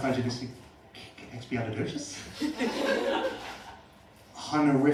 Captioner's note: laughter